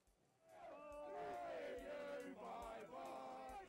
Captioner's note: crowd